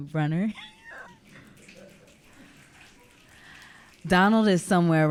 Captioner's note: audience clicking